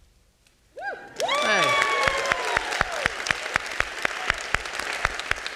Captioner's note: audience clapping